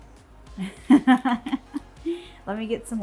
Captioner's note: laughs